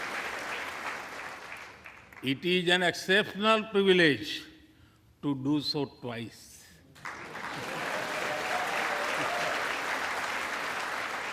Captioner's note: applause